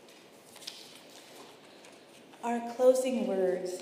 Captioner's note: paper rustling